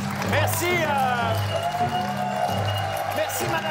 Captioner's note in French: cris et applaudissements